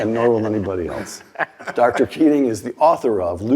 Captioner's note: laugh